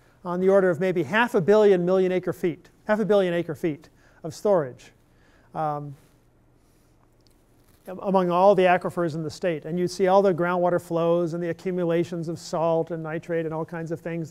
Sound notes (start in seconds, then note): none